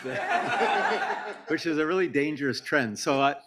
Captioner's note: audience laughs